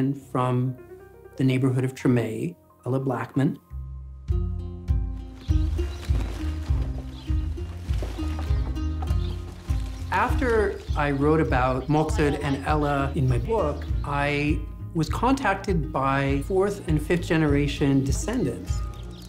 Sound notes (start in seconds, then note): 4.1 birds chirping; 4.1 upbeat music; 9.0 birds chirping; 9.0 upbeat music